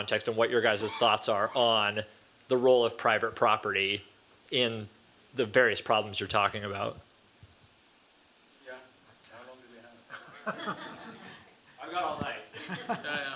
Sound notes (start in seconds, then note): 10.1 laughter